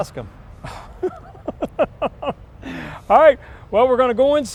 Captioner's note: laughing